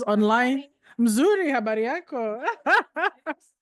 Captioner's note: speaking in foreign language; laughs